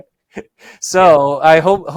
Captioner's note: laughing